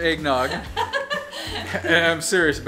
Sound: woman laughing

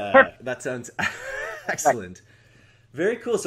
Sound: laughs

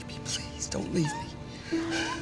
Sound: crying

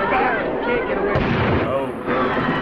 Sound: gunfire

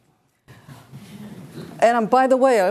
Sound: class chuckles

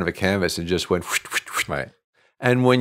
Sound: whooshing

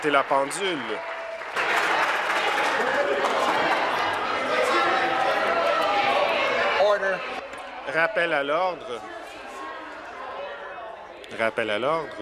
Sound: some Applause

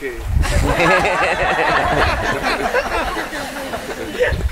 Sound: guests laughing

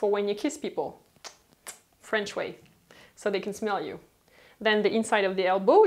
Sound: smooching

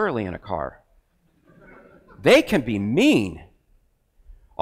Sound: crowd laughs

